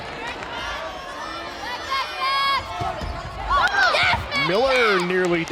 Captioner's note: players yelling